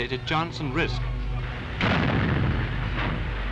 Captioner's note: shot fires